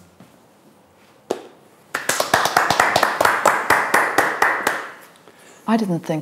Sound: applause

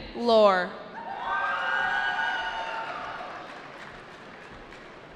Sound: cheering

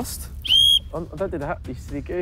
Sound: blows whistle loudly

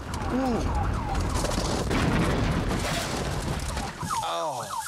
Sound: siren; crash

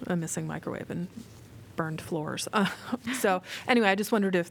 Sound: laughter

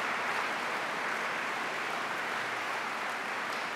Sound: applause

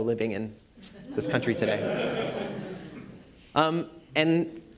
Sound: laughter

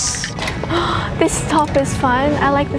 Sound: gasps

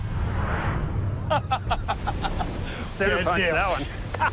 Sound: laughs

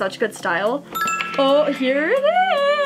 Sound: ding

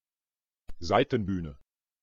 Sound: fast Pronunciation

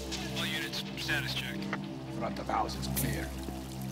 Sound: man speaking indistinctly over walkie-talkie

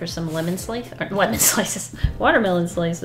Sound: laughs

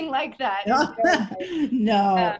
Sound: laughing

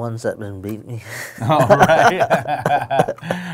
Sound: laughing

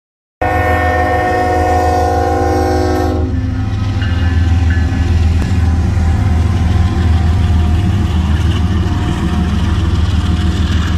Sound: train noise

